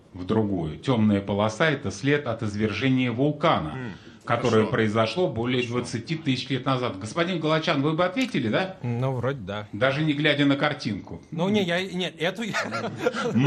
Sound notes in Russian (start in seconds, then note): 3.7 откашливается; 12.4 смех